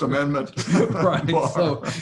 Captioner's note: Larry and J.B. laughing